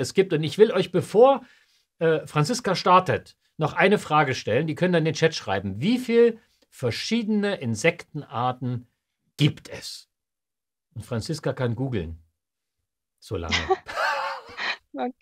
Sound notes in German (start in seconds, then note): 13.5 lachen